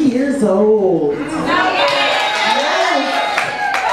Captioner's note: audience cheers